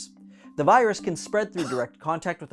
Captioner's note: person coughing